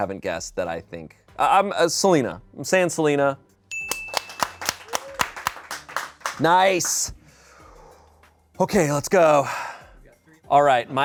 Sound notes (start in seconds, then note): 3.7 bell dings; 3.8 audience applauding